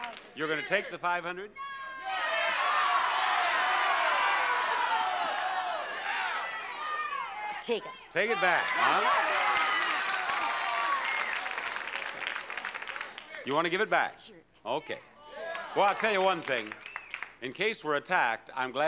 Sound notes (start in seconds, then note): 1.6 audience yelling; 8.1 audience cheering